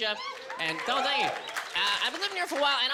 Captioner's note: cheering